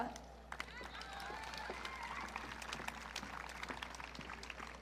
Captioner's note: audience cheering